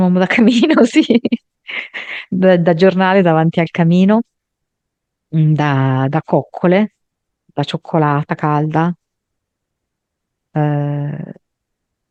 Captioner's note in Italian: risate